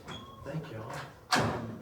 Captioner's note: door squeaks